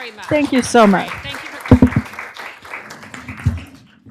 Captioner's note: applause